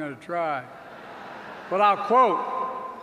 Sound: laughter

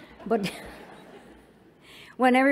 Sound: laughter

